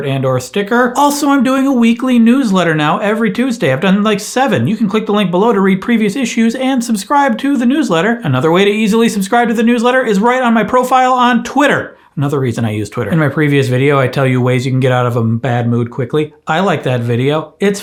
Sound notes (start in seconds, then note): none